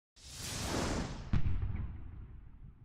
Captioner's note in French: bruyant swoosh